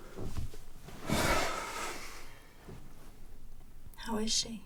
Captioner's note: Bryan sighs